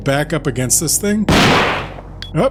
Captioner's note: gunshot